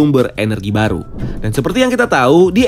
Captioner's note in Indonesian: suara transisi